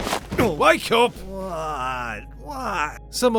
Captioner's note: thuds